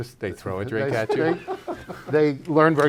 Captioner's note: laughs